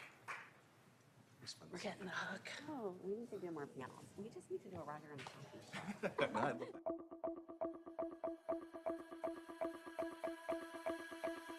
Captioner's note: applause